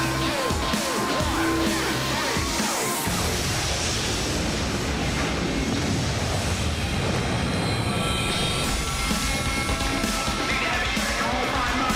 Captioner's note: crowd chatter